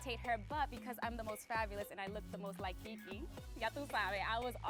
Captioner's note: speaking Spanish